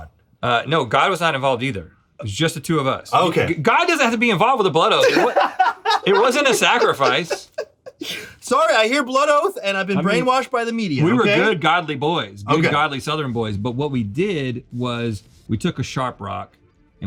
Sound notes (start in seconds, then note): 5.0 laughs; 8.9 chuckles